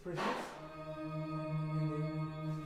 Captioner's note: humming sound playing